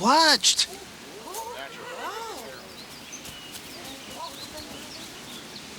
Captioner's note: congregation gasp and murmur